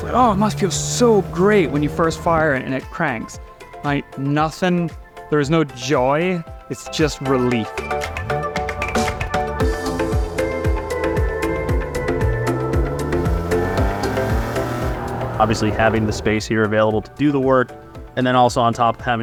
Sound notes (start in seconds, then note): 7.9 bright upbeat music; 12.3 car revving